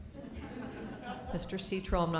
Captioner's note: laughter